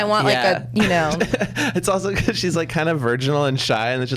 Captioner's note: laughs